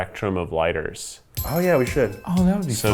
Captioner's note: magical dust tinkling